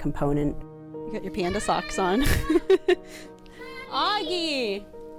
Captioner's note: laughing